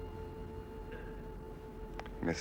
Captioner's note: none